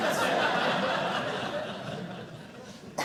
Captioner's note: audience laughing